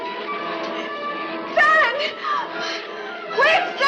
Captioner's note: gasps